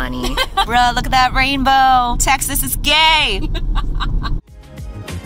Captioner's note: laughs